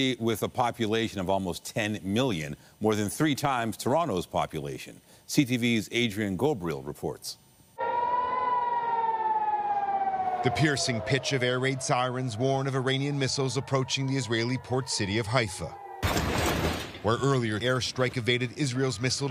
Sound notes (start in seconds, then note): 13.3 siren